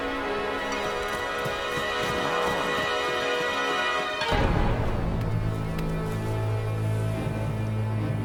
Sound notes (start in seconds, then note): 0.0 running footsteps